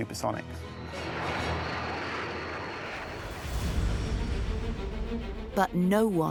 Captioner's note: dramatic music continues; jet engine roars